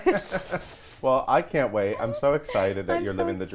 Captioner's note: laughs